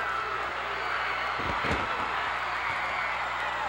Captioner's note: cheers